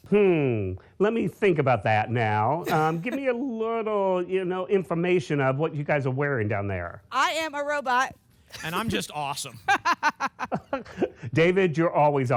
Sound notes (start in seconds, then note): 9.5 laughter